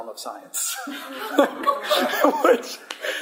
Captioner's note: laughter